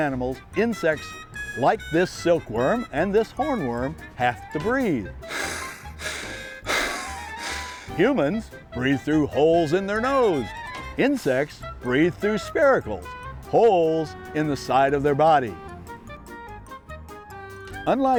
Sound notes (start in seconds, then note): 5.2 sound of breathing